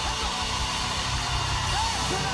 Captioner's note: cheers and applause